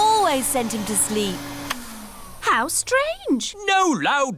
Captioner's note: whirring stops